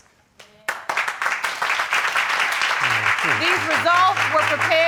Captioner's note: applause